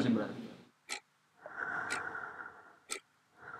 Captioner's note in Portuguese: som de respiração, relógio e pingo de gotas